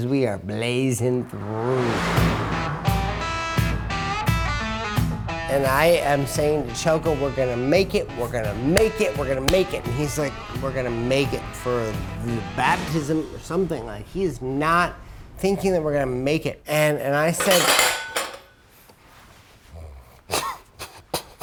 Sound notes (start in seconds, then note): 17.5 hits glass